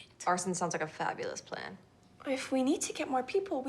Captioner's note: none